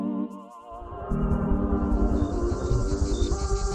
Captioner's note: ghoulish music; cricket sounds